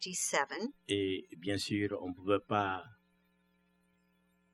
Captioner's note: speaking french